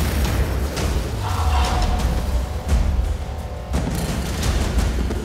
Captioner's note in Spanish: Explosión